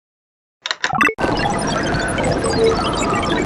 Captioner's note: sounds of computering